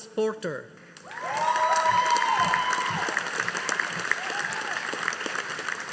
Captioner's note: audience applauding